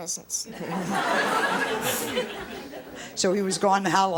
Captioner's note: audience laughs